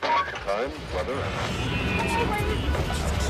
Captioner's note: radio static; car horns